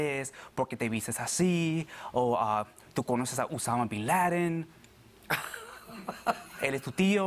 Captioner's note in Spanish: Ella ríe